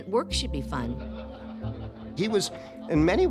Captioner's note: people laughing